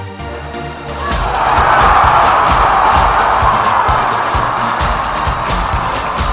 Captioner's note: fun music; audience cheering